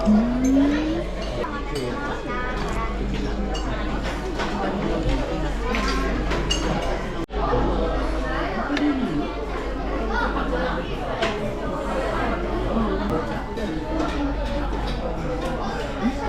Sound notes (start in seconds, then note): 9.1 laughs